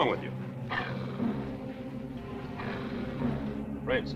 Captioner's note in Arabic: هدير الكلب